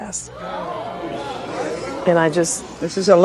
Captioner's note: audience hollering